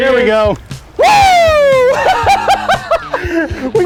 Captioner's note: yells in celebration